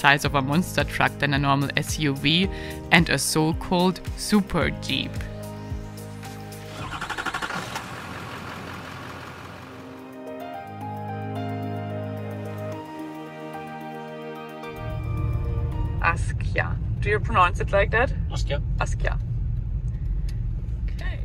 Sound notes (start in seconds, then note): 6.2 vehicle starting; 9.6 lively music